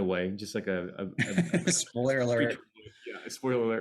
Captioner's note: laughs